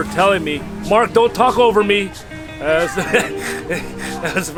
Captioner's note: laughs